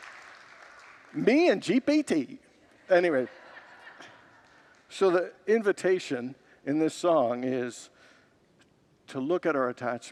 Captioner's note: congregants laugh